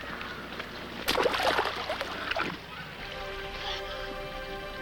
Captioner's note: water splashes